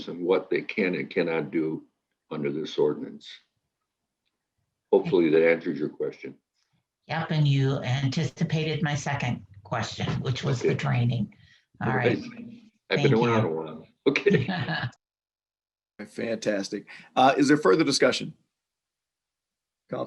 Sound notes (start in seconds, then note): 11.1 overlapping chatter; 13.1 gentle laughs